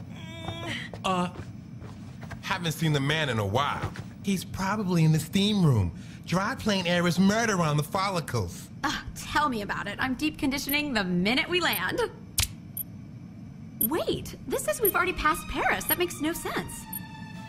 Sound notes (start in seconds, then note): none